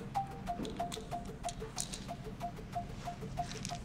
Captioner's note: pills rattling